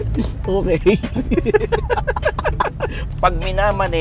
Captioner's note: both continued laughing